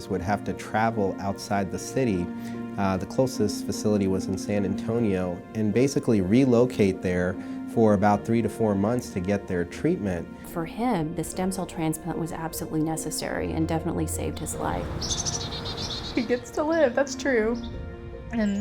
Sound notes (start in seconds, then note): 13.7 birds chirping